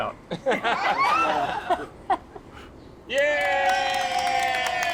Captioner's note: people laugh